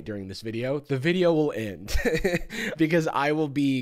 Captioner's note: laughs